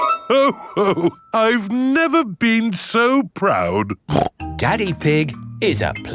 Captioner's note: snorts